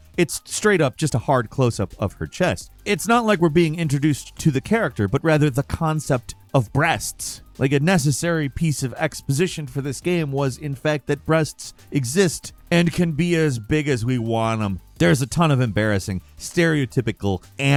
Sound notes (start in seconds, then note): none